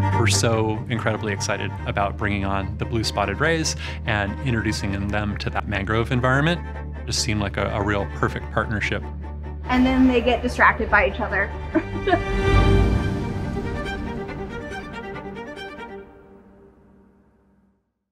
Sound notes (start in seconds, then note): 11.7 laughs; 13.2 bright music